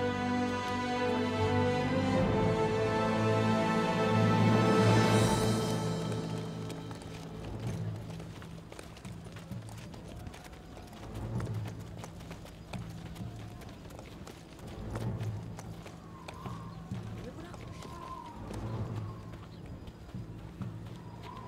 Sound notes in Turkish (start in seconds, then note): 5.4 At nalı sesi; 13.4 Müzik - Gerilim